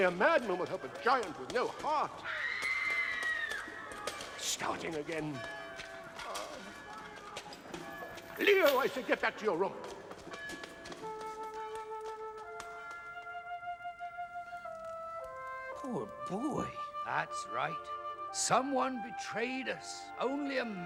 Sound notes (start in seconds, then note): 2.3 woman screaming